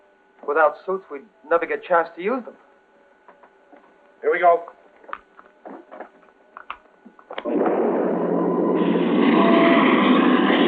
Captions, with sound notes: Without suits, we'd never get a chance to use them. Here we go. [spaceship roaring]